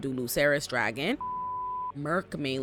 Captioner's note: beep